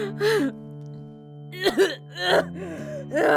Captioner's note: Emily panting, heaving; Emily coughing, ears ring